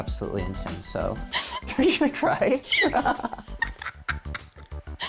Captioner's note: laughs